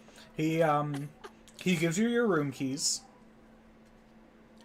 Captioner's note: laughing nervously